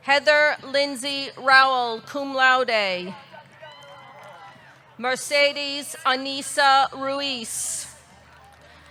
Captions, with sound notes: Heather Lindsay Rowell, cum laude. (audience cheering) Mercedes Anessa Ruiz.